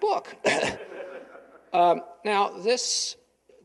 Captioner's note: chuckling